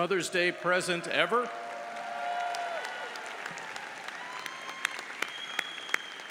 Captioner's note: audience cheers and applauds